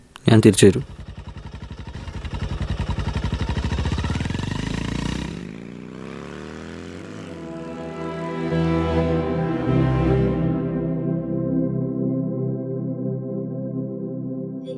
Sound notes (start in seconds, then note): 2.3 bike engine; 5.4 revving; 7.1 suspenseful music